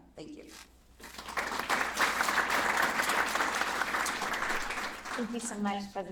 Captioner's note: applause